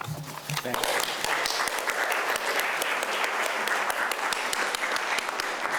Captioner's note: clapping